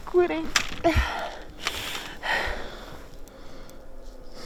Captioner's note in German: schwer atmend